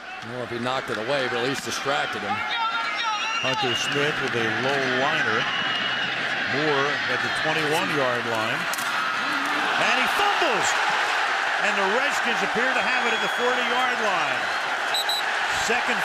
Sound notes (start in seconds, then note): 3.2 whistle